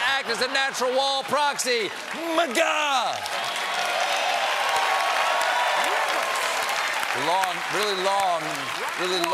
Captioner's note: cheers and applause